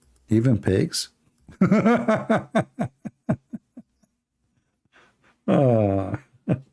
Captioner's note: Ketawa